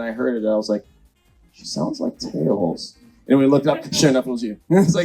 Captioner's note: laughs